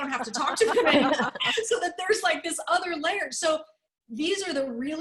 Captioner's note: laughter